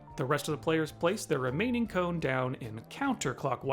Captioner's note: none